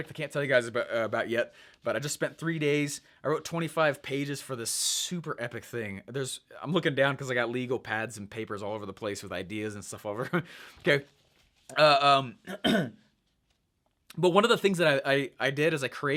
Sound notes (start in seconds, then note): 12.4 coughing